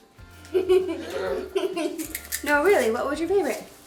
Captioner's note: children chuckle